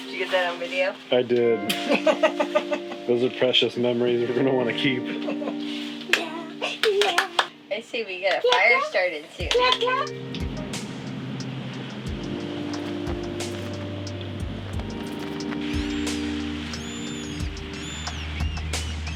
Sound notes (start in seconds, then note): 1.7 laughter; 12.3 subtle music